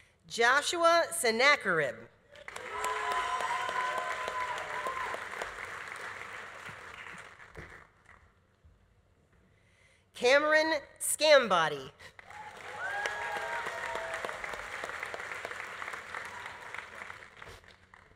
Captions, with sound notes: Joshua Senackerib. (audience applauding) (audience cheering) Cameron Sgambati. (audience applauding) (audience cheering)